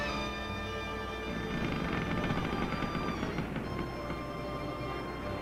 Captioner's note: rail creaking